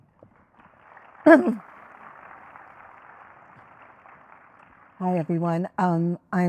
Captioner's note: crowd applauding